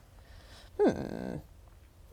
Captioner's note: minecraft villager sound